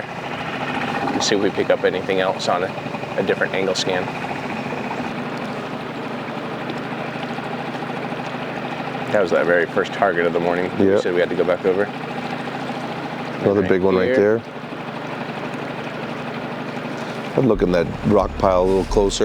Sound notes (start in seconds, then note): 4.1 engine rumbling